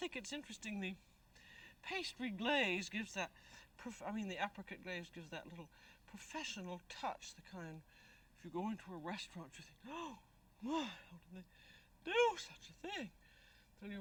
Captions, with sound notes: But I think it's interesting the apricot glaze gives that little professional touch, the kind-- if you go into a restaurant, you'll say, [gasp] Boy, how could they do such a thing?